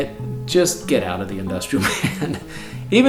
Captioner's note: laughs